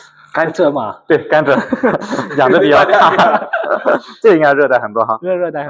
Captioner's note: laughs